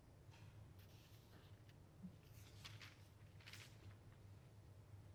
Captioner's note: page fluttering